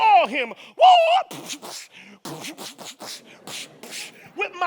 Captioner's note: makes fighting noises